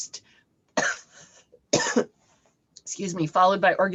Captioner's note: coughing